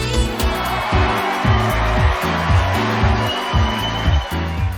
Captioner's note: crowd cheering